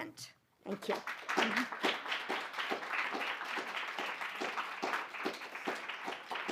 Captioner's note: applause